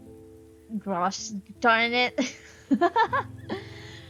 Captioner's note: laughs